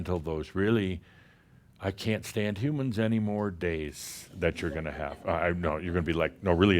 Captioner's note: a few chuckles